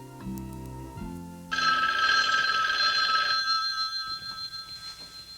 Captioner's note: phone ringing